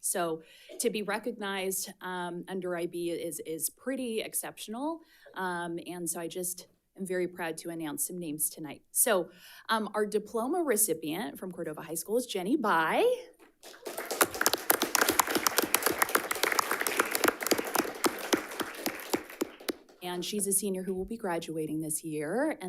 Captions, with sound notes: So to be recognized under IB is pretty exceptional. And so I just am very proud to announce some names tonight. So our diploma recipient from Cordova High School is Jenni Bi. (audience applauds) And she's a senior who will be graduating this year.